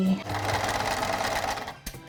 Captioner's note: machine noises